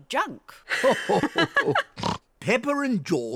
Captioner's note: grandpa and granny laugh